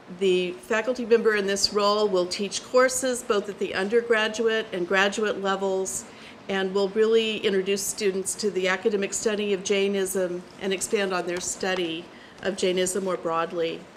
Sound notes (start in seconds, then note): none